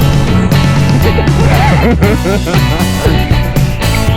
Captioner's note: hahahaha